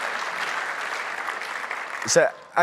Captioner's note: applause